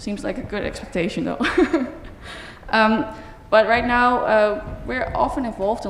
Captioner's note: laughter